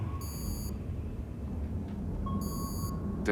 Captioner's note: alarm